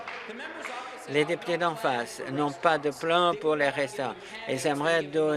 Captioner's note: laughter